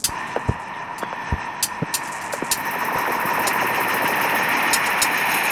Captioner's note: fizzling and tapping